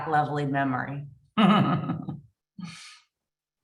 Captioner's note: laughter